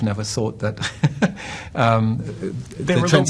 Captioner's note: laughs